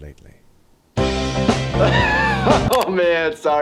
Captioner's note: upbeat music; laughing